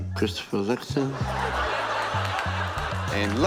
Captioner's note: laughter